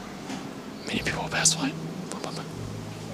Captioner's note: whispers